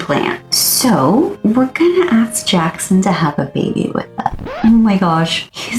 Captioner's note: record scratch